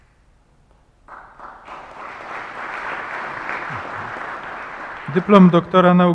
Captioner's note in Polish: oklaski